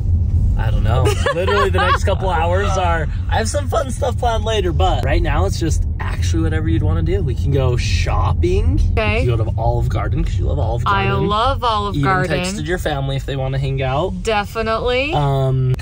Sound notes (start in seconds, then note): 0.9 laughs